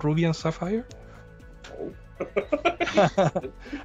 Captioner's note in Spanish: risas